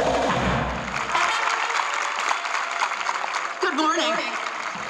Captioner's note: audience clapping